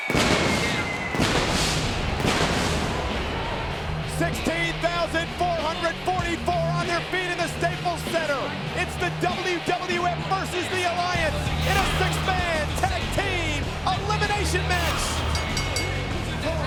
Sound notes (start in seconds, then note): 0.0 pyrotechnics detonating; 3.1 audience jeering; 3.1 upbeat music; 14.7 bell ringing